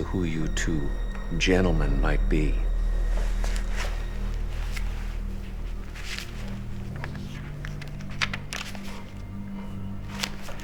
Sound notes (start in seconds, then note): 6.1 pages flap